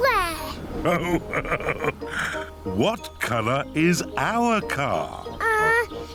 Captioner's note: laughs